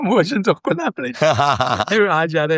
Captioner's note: laughs